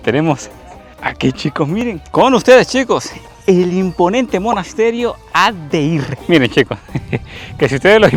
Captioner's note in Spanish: risas